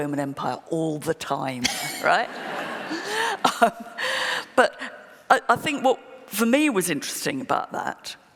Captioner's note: laughter